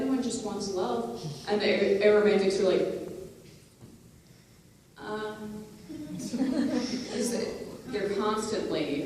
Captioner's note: laughter